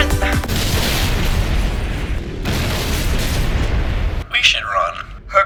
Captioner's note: munitions exploding